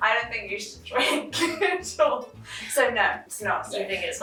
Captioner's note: both laughing